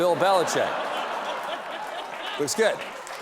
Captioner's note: laughter